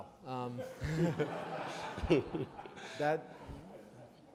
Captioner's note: audience laughs